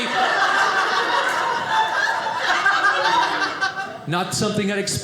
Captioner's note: audience laughing